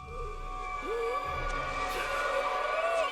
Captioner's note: gasping